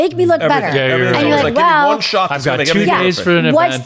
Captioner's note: everyone chattering